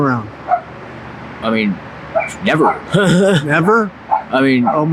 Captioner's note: chuckles